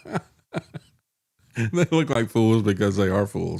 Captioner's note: laughs